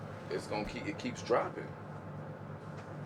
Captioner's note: none